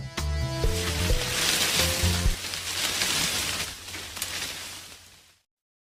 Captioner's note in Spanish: Sonido de Arbusto